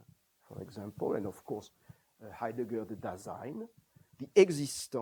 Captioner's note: non-english; non-english